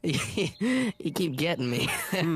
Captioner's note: chuckling